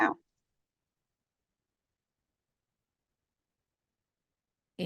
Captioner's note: no audible dialogue